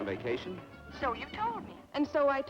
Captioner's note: on telephone